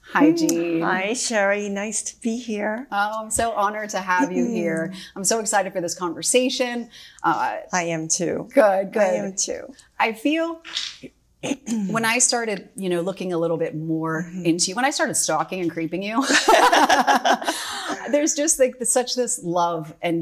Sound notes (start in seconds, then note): 16.2 both laugh